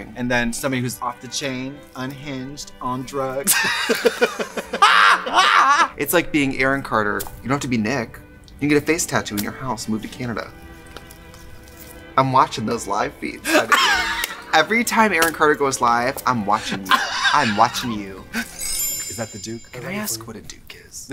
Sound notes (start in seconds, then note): 3.4 both laugh; 13.4 Katya laughs